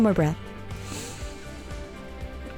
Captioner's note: deep inhale